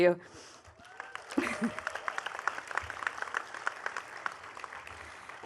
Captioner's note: attendees clapping